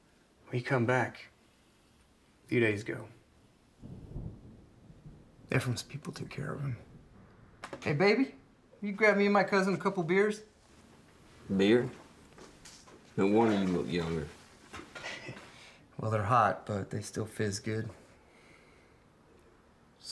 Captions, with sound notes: Well he came back a few days ago. Ephraim’s people took care of him. Hey baby, will you grab me and my cousin a couple beers? Beer? No wonder you look younger. [Chuckles] Well, they’re hot but they still fizz good.